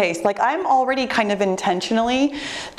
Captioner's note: none